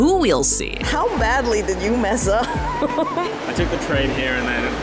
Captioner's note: laughs